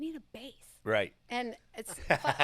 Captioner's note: laughs